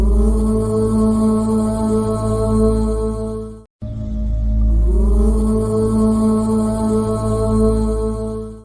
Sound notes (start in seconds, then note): 0.1 chanting